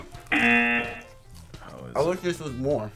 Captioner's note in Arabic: طنين الجرس